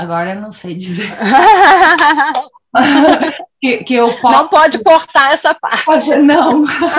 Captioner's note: laughing